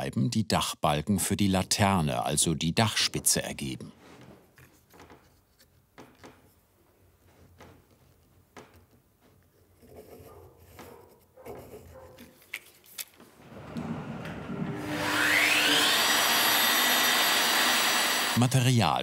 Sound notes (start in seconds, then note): 15.5 the saw makes a noise